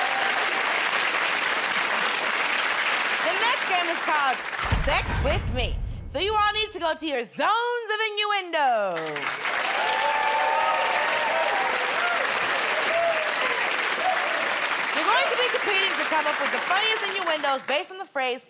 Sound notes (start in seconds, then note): 11.3 cheers and applause